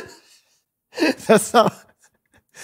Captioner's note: laughing